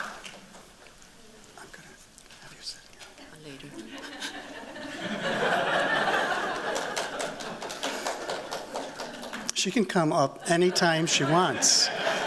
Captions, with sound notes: I'm going to have you sit down. Later. [LAUGHTER] She can come up anytime she wants.